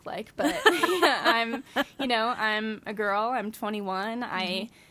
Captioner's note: laughs